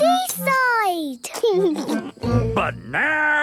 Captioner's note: laughing